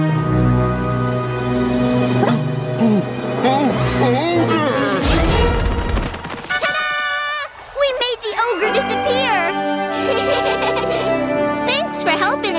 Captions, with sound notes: Ooh, ooh, ogre! Tada! We made the ogre disappear. [laughing] Thanks for helping us.